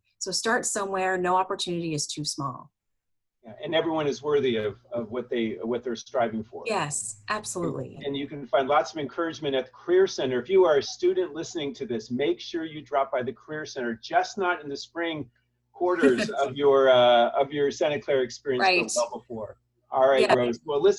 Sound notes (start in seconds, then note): 15.8 laughs